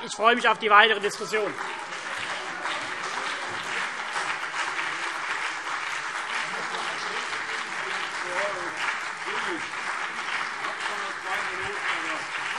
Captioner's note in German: Anhaltender lebhafter Beifall CDU und BÜNDNIS 90/DIE GRÜNEN - Zurufe